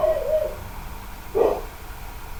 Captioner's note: bark